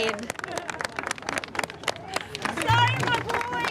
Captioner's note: crowd claps